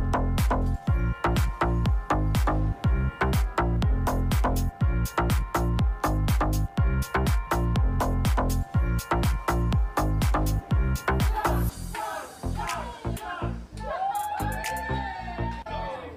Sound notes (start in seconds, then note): 13.7 crowd; 13.7 crowd cheering